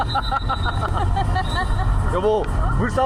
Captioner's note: ก็หัวเราะ